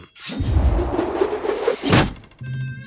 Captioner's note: growls grumbily; air whooshes